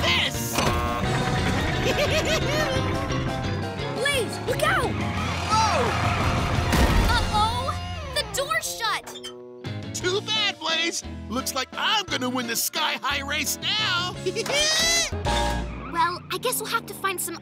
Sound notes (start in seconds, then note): 1.7 giggling; 14.0 giggling